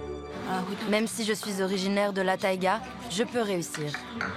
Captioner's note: foreign spoken audio